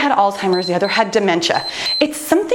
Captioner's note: timer beeps